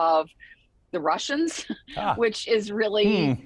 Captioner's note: chuckling